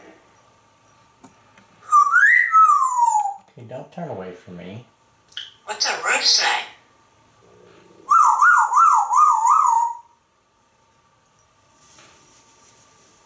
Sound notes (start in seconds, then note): 1.8 whistles; 8.0 whoo, whoo, whoo, whoo